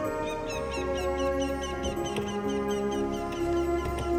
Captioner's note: birds chirping